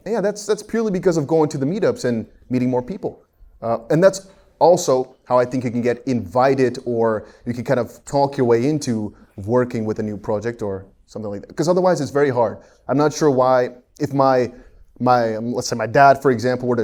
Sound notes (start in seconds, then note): none